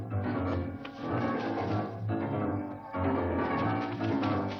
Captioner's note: heavy breathing